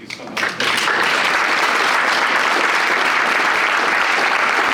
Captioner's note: audience applauding